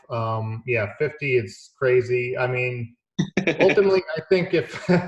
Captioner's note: chuckling